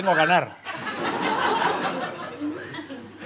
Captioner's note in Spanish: Risas